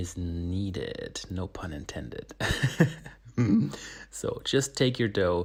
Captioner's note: laughs